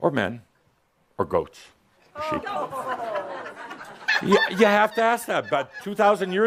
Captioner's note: some chuckles and groans in the audience